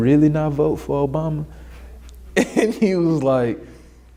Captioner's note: laughs